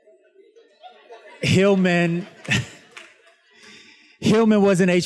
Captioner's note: students laughs